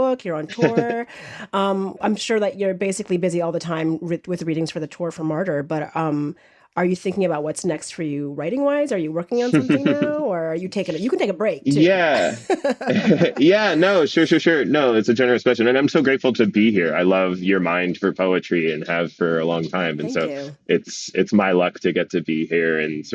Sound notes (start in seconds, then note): 11.6 laughs